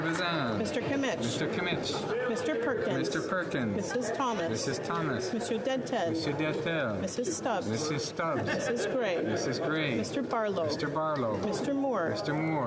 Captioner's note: calling of recorded vote